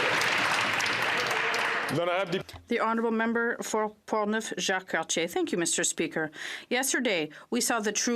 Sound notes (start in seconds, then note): 2.9 applause